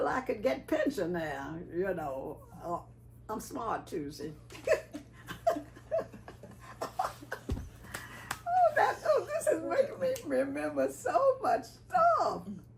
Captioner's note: laughing